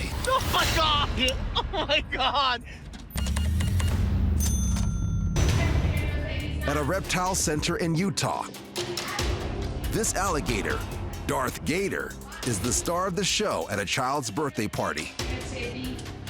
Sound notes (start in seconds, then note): 3.1 beeping; 4.3 cash register dings